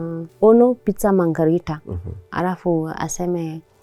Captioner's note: speaking Italian